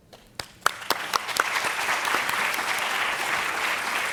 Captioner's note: applause